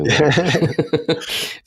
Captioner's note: laughing